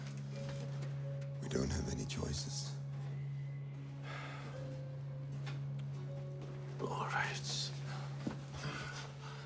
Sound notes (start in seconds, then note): 3.5 Max sighs